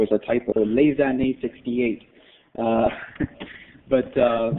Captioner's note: foreign language